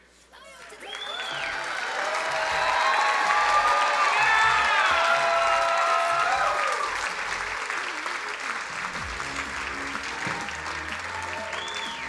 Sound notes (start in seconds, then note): 1.6 crowd cheering and applauding